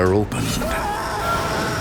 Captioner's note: screaming